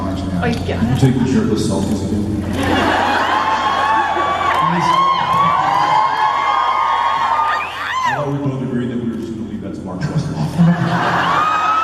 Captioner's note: crowd laughs and cheers